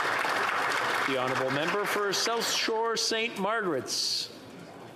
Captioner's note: applause